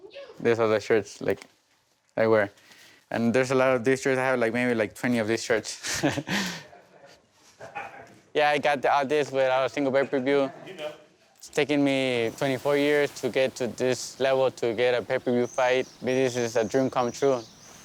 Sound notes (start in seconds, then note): 5.8 chuckles